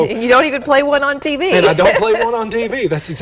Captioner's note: laughter